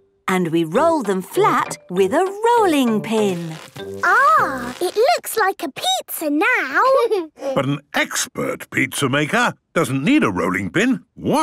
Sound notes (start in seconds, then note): none